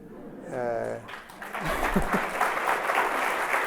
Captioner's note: applause